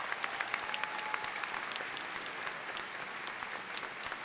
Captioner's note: applause